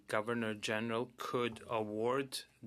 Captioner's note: speaking in French